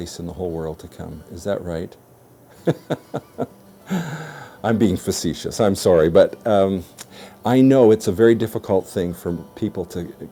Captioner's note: laughs